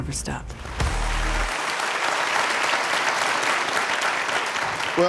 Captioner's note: audience applauding